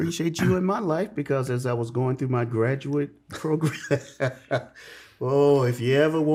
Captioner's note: laughs